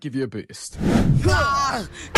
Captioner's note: Jupiter and Theia Scream